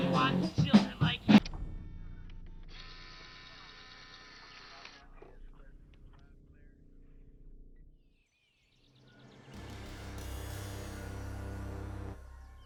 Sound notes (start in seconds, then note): 2.6 camera whirring; 7.6 birds chirping